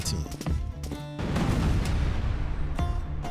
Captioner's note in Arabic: انفجار القنابل; موسيقى شرق أوسطية